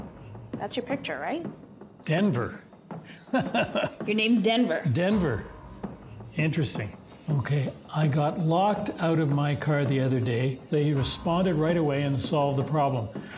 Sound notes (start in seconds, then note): 3.1 he laughs